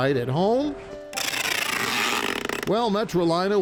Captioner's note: tape ripping